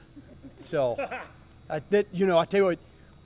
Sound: laughter

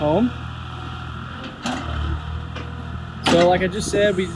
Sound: skid-steer engine Roaring

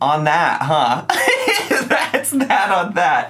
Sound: laughing

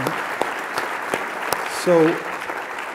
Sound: applause

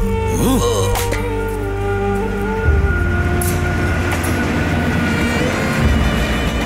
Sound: train Passing in long side

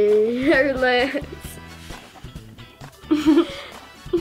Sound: laughs

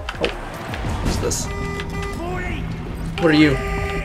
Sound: car honking in the distance

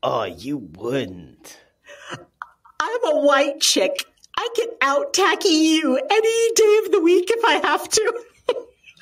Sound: laughing

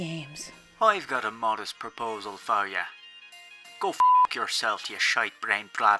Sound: beep

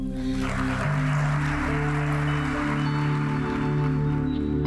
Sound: audience applauds

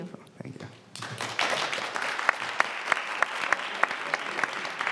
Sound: audience applauds

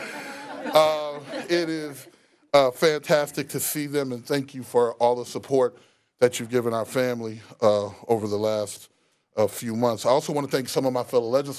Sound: laughter

